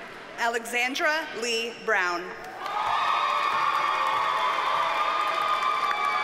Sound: audience cheers and applauds

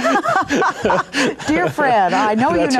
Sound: laughing

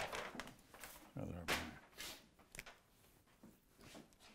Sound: Bob mumbles

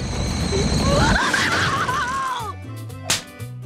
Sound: yelling

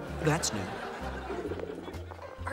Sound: gurgling

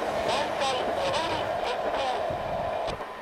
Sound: inbound train approaching

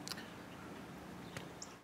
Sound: blowing kiss

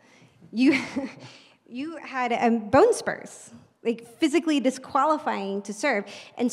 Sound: laugh

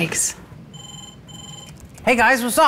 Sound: phone rings

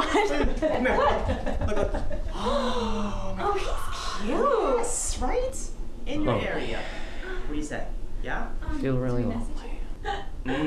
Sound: gasping

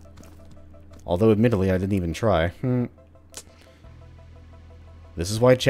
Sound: slight chuckle

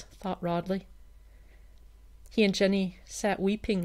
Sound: none

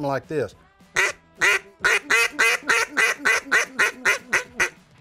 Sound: duck quacking

